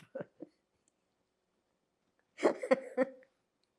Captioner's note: laughing